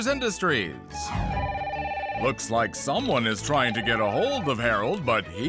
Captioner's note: phone rings